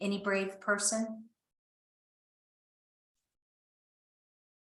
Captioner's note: silence